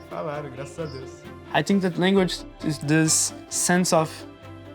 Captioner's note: in English